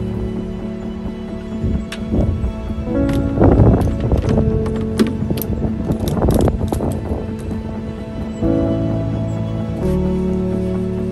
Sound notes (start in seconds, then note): 1.5 sounds of unpacking gear and wind